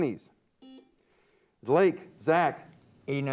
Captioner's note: buzzer beeps